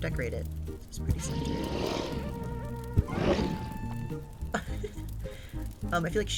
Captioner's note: giggles